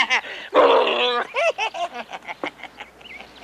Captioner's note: Charlie laughs